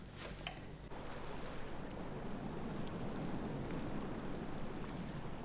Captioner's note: water waves crashing